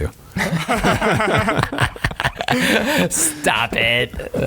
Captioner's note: all laughing